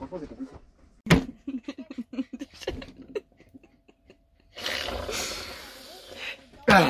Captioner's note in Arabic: يضحك